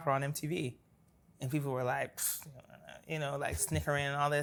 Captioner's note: scoffs